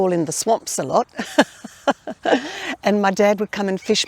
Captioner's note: laughing